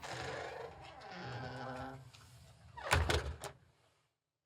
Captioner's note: closing door